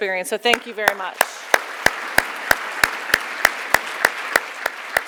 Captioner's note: audience clapping